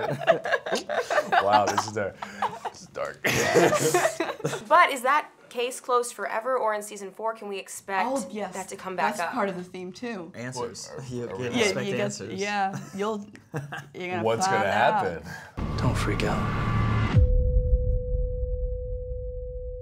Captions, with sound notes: - Wow this is dark, this is dark. (chuckles) - But is that case closed forever? Or in season four can we expect that to come back up? - Oh yes, that's part of the theme too. - Answers, you get answers. - Yeah. You get, yeah. You're gonna find out. - What's gonna happen? - Don't freak out.